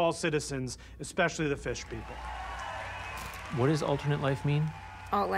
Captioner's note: audience cheering, applauding